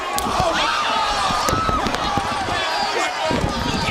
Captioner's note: crowd chatter; crowd cheering